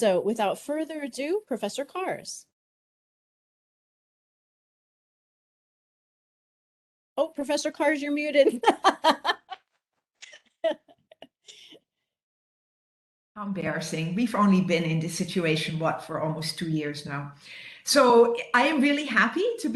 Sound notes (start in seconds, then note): 2.1 silence; 8.5 laughs